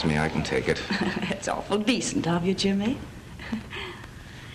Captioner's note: laughs